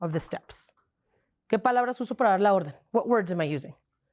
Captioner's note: speaking in Spanish